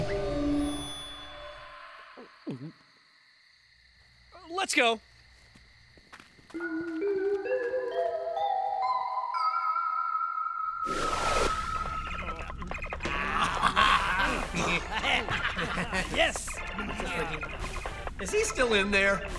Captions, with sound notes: Uh... Let's go! (playing and laughing) is he still in there?